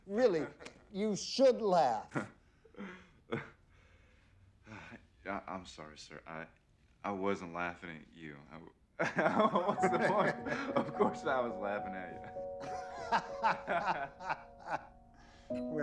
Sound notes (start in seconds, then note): 9.2 laughing; 12.6 both laughing